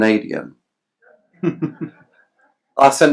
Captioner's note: laughs